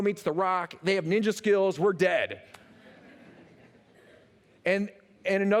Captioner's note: laughter